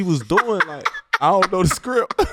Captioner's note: laughing